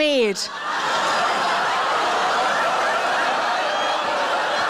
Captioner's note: audience laughing